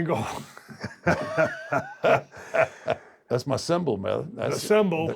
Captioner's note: laugh